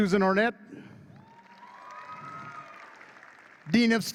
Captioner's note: audience claps and cheers